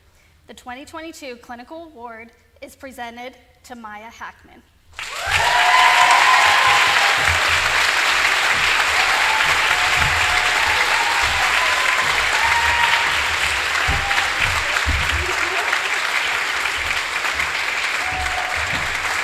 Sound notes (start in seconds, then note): 4.9 applause